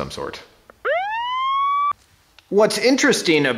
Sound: siren wails

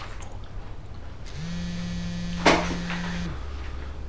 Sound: buzzz

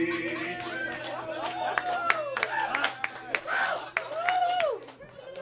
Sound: laughing and applause

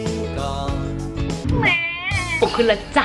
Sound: baby crying

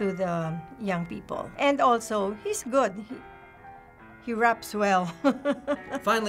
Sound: chuckles

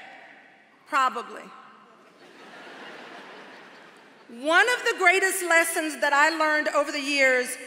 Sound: laughter

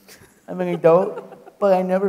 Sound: laughing

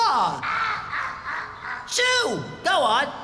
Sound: laughing

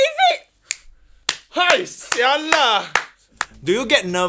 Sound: Bolin clapping for himself

